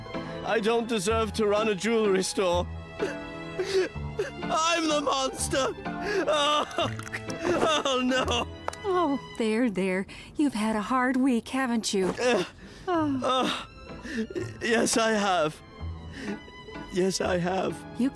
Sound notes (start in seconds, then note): 3.5 Reginald sobs